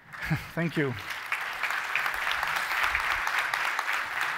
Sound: applause

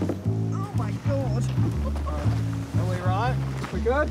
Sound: chuckles

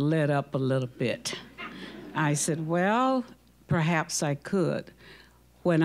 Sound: audience laughing

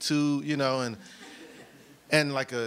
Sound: audience laughs

